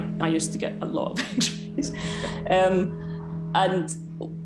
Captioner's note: laughing